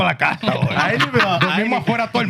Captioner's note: speaking Foreign Language; laughing